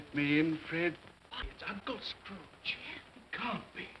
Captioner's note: guests murmur